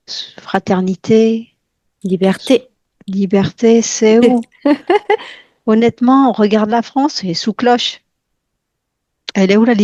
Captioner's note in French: rires